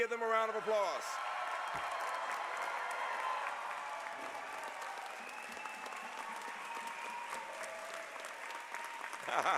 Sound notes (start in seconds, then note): 0.2 applause; 9.2 laughter